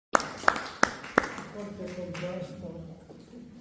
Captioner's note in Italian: Applauso